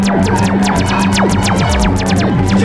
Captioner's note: all growling